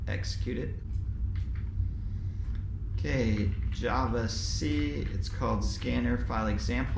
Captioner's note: keyboard clicking sound